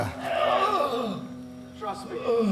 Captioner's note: Undertaker whimpering